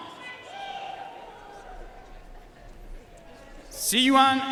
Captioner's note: audience cheering and applauding